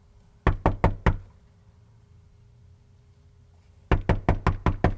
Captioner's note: knocks on door; knocking on door